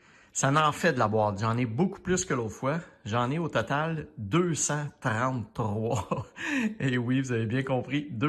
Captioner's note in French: rires